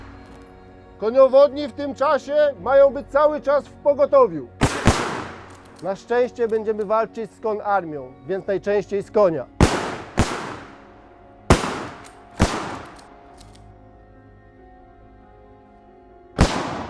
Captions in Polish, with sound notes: Koniowodni w tym czasie mają być cały czas w pogotowiu. Na szczęście będziemy walczyć z konarmią, więc najczęściej z konia. [STRZAŁY]